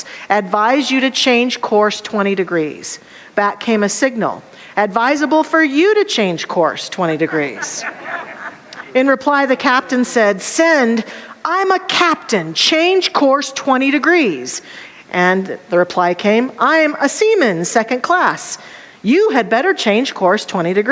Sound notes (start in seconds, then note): 7.2 audience laughter